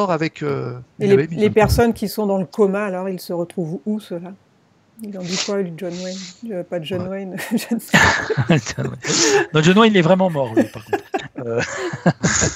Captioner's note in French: rires